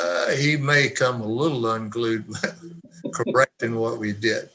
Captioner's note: panelists chuckle